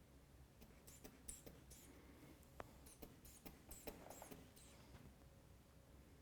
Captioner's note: squeezing inflation bulb